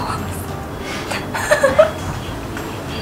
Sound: laughing

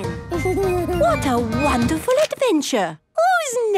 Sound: Danny giggles

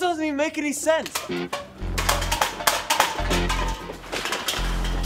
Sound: cans clattering; bodies scuffling

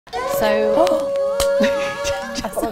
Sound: gasping; upbeat pop music; laughing

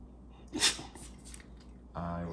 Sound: Oliver sneezes

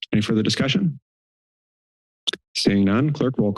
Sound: silence

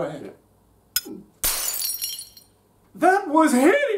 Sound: shattering

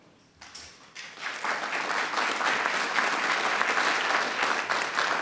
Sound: audience clapping

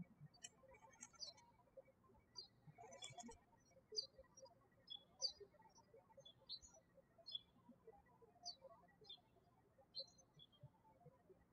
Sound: birds chirping

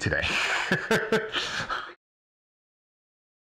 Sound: laughing

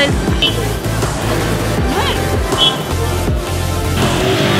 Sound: drivers sounding horns; trance music

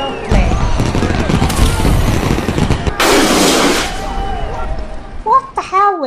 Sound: very noisy crowds outside, announcements, firecrackers and a flare goes up

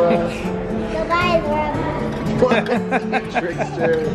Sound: laughter

